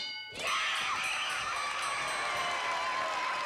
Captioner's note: applause